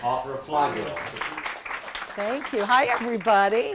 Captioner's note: audience applauding